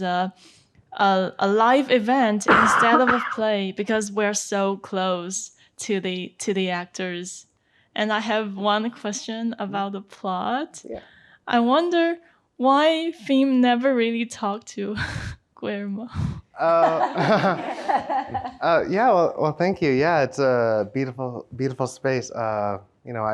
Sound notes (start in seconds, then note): 16.6 everyone laughs